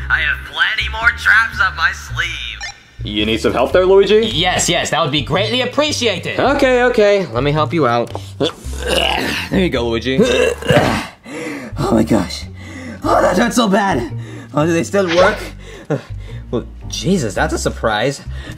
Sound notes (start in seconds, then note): 8.4 grunts; 10.8 breathing intensely